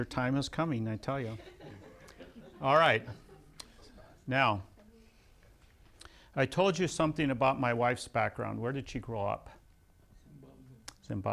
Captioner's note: laughs